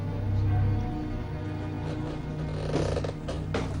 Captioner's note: floorboards creak